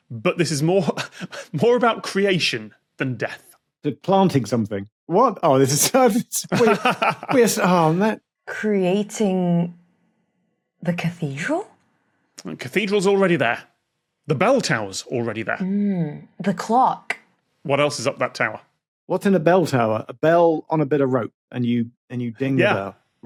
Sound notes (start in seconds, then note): 5.4 chuckles; 5.4 laughs